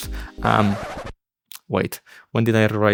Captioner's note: scratch sound